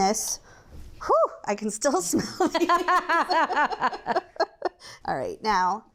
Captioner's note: laugh